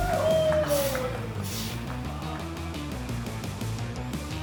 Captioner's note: firefighters cheer